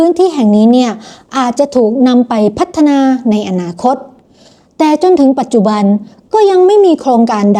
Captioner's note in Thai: เสียงสูดหายใจ